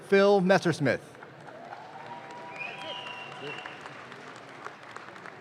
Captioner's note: audience claps